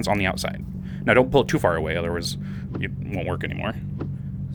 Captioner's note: gearshift shifting